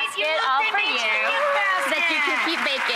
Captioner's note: audience applauds